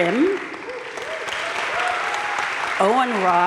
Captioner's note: audience cheering and applauding